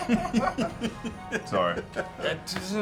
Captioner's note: laughter